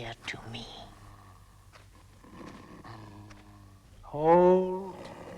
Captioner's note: Beast growling